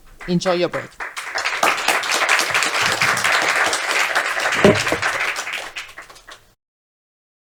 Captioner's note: audience applauding